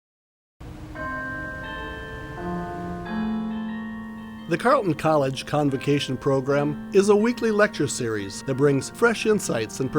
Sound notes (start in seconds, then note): 0.9 bells chiming